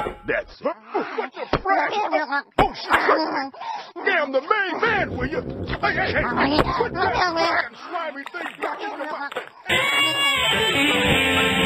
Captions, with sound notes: That's it. What the frag?! (Lobo yells as the alien speaks in her alien language) (electric guitar riff)